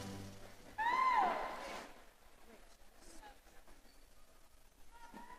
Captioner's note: audience cheering